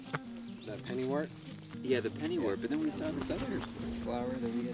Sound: people chattering

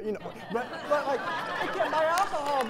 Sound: laughter

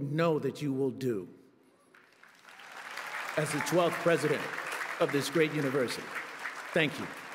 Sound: a p p l ause

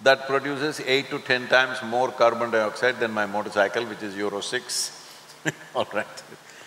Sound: laughs

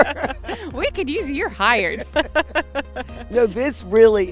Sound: laughs

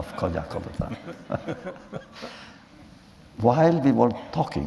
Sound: laughter

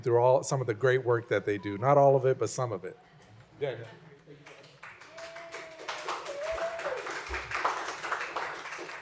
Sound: applause

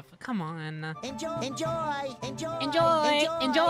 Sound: SpongeBob Repeating “Enjoy!”

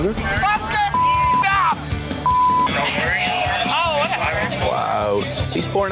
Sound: beeping; shouting

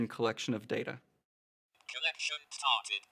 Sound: Labquest speaking "Collection started"

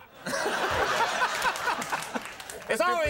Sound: audience laughing

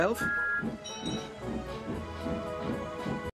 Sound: thomas whistles and toby rings bell

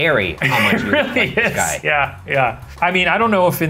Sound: laughing

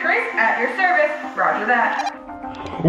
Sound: walkie-talkie beeps

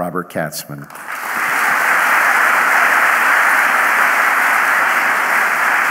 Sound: audience applauding

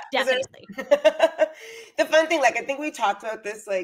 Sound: laughs

